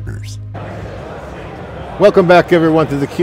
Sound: people chattering

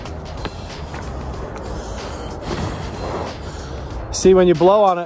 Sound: blowing

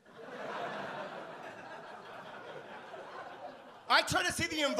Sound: audience laugh

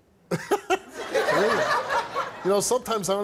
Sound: laughing

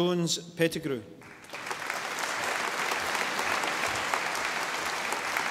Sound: audience applauding

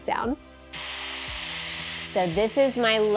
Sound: machine whirring

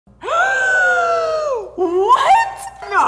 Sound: gasping

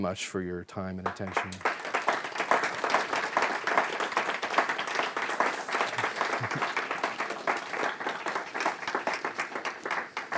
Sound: audience applauding

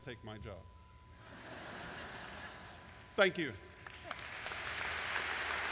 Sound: laughter; applause

